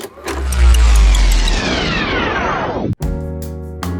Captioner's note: VCR clicks; tape rewinds; mellow music